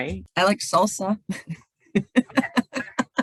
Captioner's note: laughs